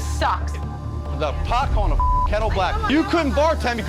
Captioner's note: beep